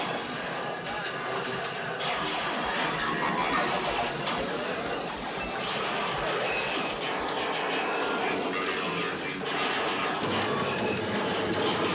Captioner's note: sci-fi sounds